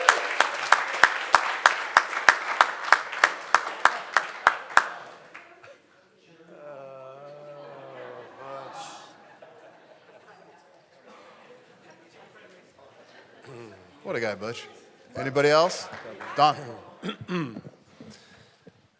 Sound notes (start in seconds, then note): 1.6 audience Chattering